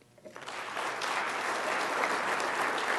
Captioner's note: applause